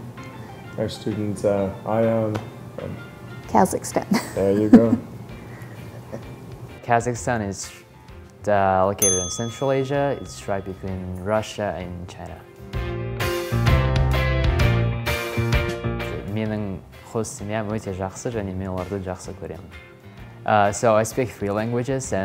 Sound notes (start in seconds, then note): 12.8 upbeat music; 15.7 speaking in Kazakh